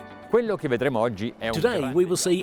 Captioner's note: speaking in foreign language